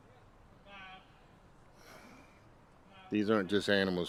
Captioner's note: sighing